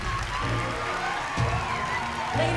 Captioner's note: applauding